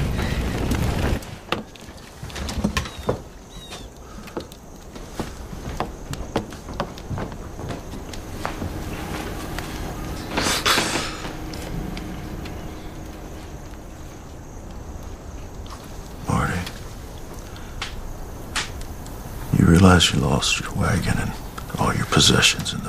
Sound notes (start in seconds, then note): 15.2 sighs